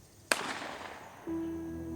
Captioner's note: shot banging; soothing music